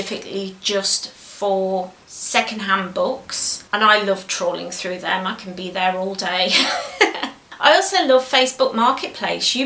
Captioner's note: laughs